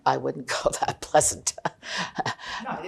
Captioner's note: laughing